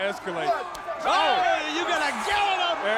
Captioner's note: commentators exclaim